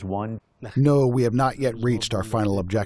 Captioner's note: through translator